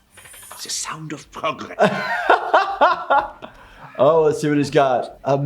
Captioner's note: laughing